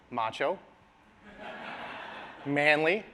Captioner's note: laughter